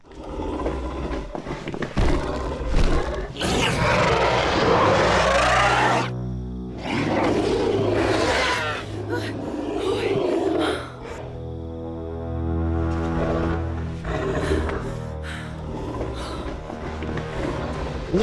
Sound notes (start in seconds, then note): 0.0 dinosaur growls; 3.4 roaring; 8.3 squawking roaring; 9.5 woman's panicked breathing; 14.0 dinosaur's rattling breathing